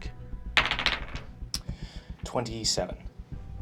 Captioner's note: dice bouncing